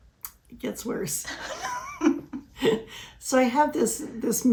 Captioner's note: laughs